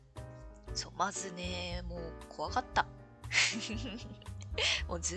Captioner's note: laughs